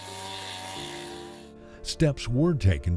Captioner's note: sound of chainsaw